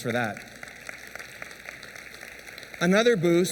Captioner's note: applause